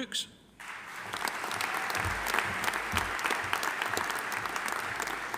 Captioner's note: audience applauding